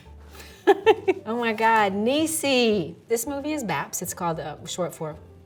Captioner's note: laughing